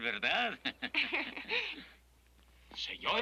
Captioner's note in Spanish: risas